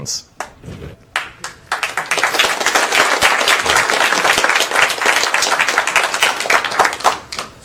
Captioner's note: applause